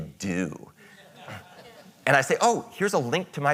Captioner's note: audience chuckles